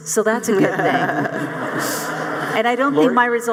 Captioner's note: audience laughing